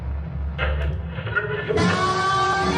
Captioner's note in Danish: radioknatren